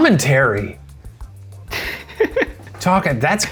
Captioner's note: laughs